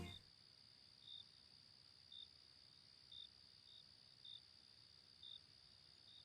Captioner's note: crickets Chirping